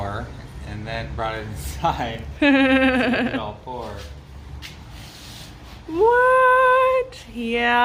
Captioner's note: laughs